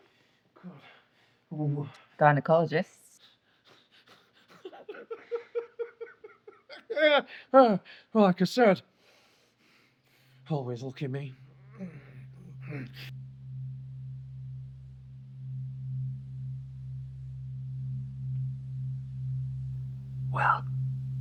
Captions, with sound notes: - God, ooh. - Gynecologist. (Solent laughing) - Yeah, (groans) well, like I said, always lucky me. (soft ominous tone)